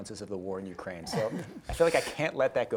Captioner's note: group laughs